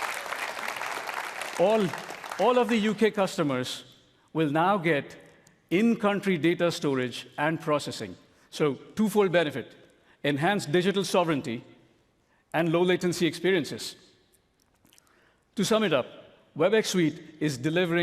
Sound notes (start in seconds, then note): 3.5 applause